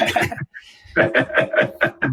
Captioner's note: laughs